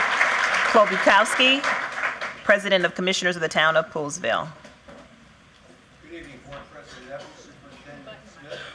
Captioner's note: cheering